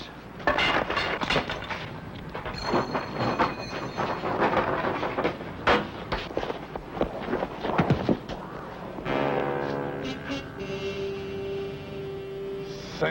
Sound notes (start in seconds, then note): 0.5 ax clangs; 3.9 door clacks open; 9.0 suspenseful music